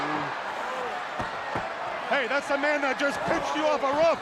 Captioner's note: crowd chatter